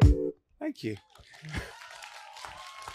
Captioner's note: applause